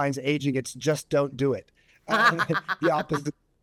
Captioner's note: chuckles